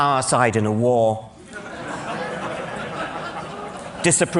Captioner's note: laughter